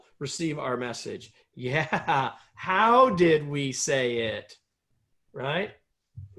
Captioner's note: laughter